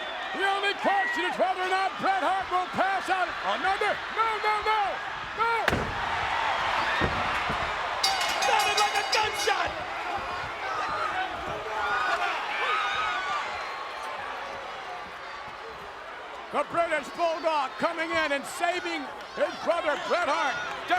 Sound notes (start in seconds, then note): 5.8 chair thuds; 8.0 bell dinging; 10.2 crowd yelling